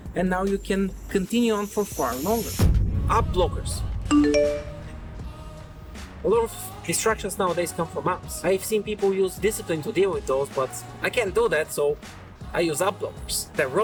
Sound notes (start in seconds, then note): 4.1 phone notification dings